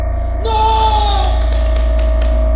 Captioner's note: mad stan screams